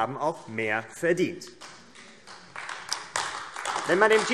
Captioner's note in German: Beifall AfD